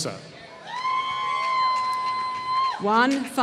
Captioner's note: applause